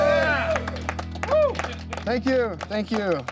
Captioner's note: clapping